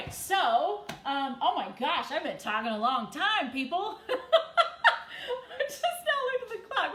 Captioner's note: laughs